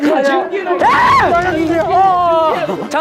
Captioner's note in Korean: Хүчтэй хашгирах